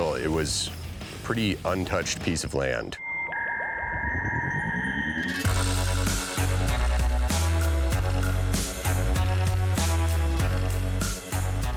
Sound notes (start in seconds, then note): 3.0 dial tone; 5.8 upbeat music